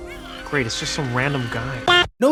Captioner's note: distant cheering